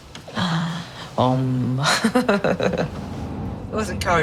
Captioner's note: laughs